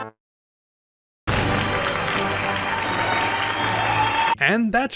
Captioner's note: silly music; applause